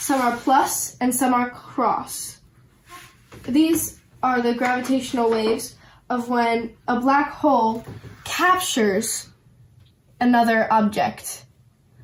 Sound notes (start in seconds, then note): none